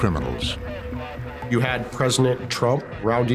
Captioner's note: radios running in background